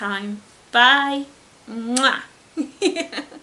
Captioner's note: giggles